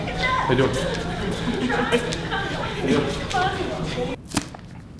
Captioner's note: more stress sounds